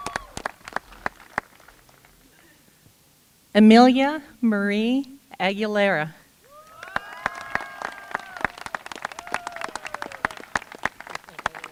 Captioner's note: applause